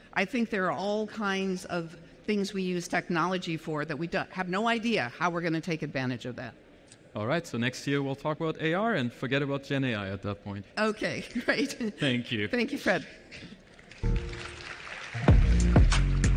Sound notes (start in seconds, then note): 11.2 chuckles; 13.7 applause